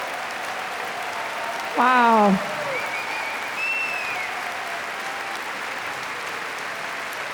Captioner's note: applause; applause